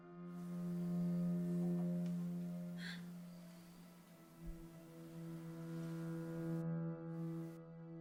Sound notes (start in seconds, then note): 2.7 Eileen gasps